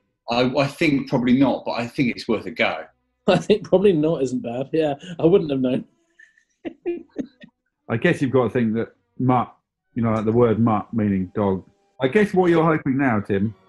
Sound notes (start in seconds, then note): 6.6 giggling